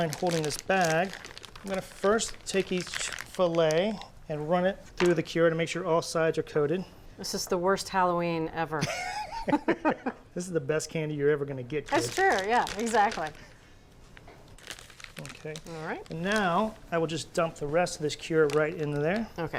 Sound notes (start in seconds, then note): 8.8 laughter